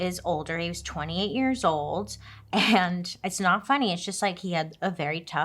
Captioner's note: laughs